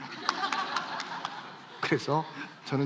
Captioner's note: laughs